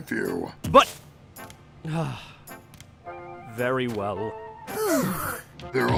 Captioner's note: groans